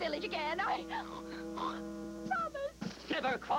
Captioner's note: snorts